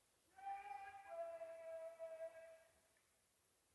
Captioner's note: faint voice